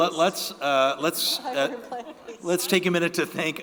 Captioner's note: chuckles